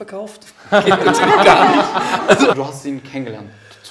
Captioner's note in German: Gelächter